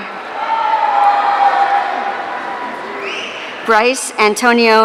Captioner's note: audience cheering